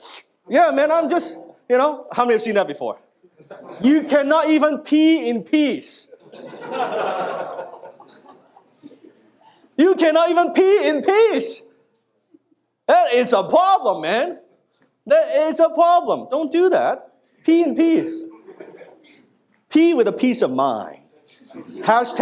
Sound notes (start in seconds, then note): 6.2 audience laughing